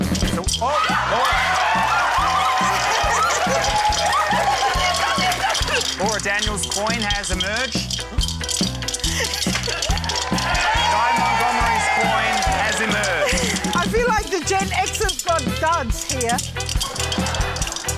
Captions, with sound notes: - Still― Oh! - (SHRIEKS) (CHEERING, APPLAUSE) - Laura Daniel's coin has emerged. (COINS RATTLE) (CHEERING) - Guy Montgomery's coin has emerged. - I feel like the Gen Xers got duds here. (LAUGHTER)